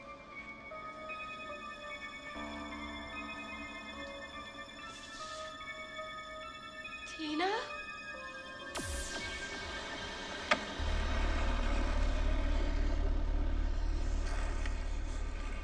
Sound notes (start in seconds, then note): 0.5 suspenseful music; 10.2 lifeless arm thuds on the ground; 11.0 heavy object drags along the floor